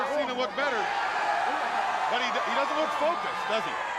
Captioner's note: crowd cheering